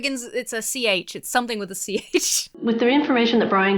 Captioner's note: laughs